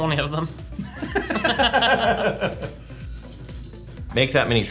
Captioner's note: laughing